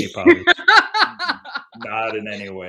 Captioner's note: laughs